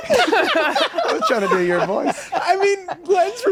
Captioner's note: group laughs